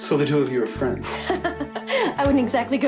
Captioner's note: Ginger laughing